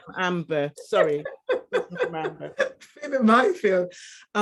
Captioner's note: woman laughing